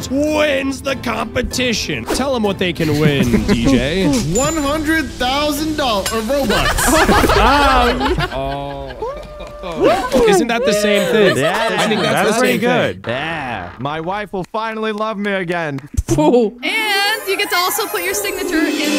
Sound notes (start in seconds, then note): 6.5 all cheering; 7.0 all laughing